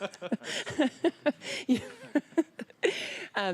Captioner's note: laughter